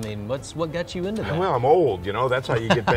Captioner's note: laughs